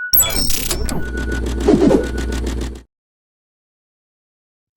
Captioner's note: whoosh